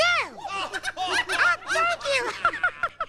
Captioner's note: laughter